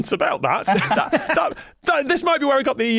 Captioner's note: guests laughing